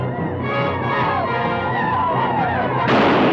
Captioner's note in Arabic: الهنود الحمر يعويون; اطلاق النار بالبنادق